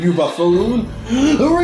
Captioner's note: inhale